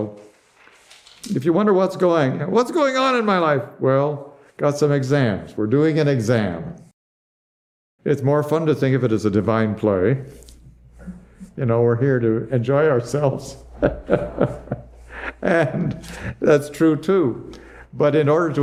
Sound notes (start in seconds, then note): 13.6 laughs